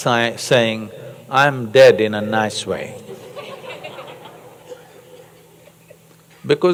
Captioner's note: laughter